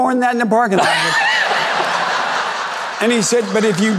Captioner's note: crowd laughing